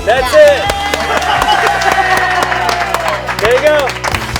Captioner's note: applause